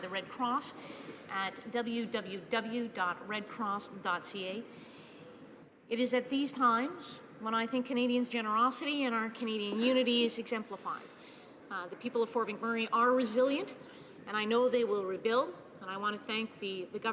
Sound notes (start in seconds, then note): none